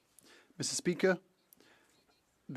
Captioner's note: speaking French